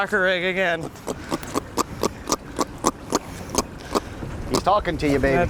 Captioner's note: grunting fish